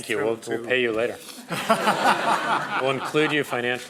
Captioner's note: crowd laughing